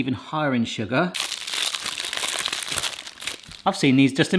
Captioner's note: plastic rustling